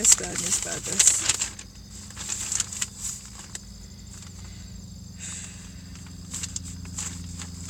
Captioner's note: sigh